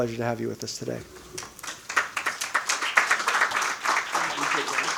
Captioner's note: audience clapping